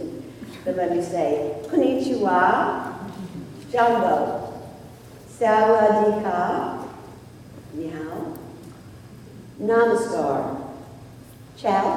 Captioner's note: speaking Foreign Languages